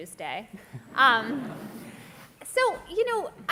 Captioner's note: laughter